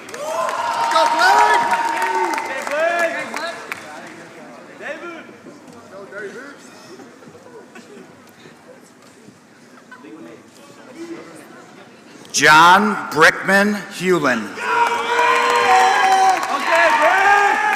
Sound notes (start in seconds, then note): 0.0 applause; 14.8 applause